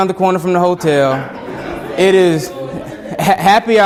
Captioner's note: students laughing